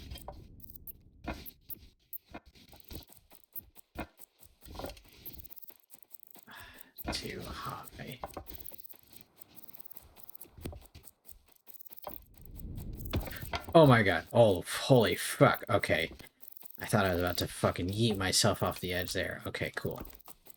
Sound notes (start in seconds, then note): 6.5 sigh